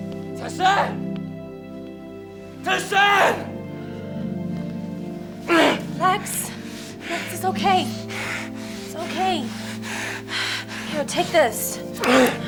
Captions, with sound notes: Tai-san! (grunts) - Lex, Lex, it's okay, it's okay. Here, take this.